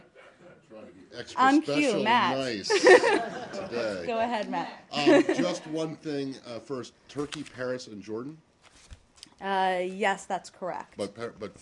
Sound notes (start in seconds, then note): 4.4 laughter